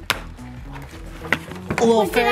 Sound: cracking noise

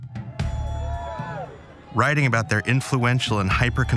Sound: fans whooping

